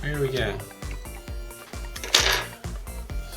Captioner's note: tool hits table